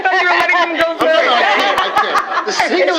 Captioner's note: laughter